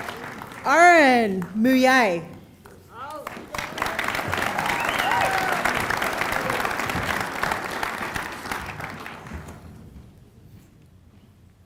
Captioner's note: applause